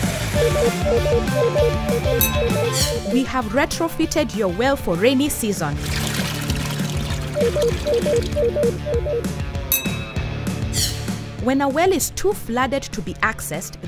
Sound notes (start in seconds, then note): 0.3 beeping; 5.7 water splashing; 7.3 beeping